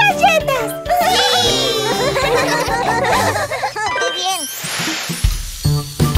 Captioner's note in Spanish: Risas